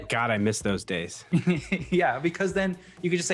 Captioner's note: chuckles